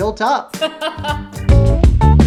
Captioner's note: laughs